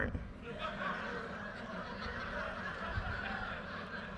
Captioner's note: audience laughter